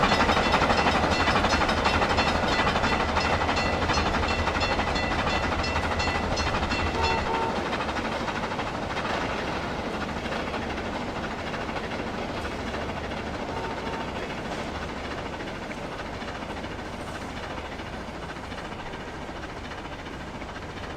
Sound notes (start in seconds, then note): 0.0 wig wag stops ringing; 4.7 chuffing in the distance